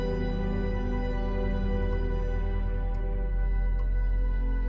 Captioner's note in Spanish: tictac del reloj